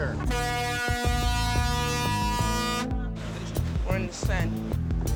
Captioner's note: <i> ship's horn blaring</i>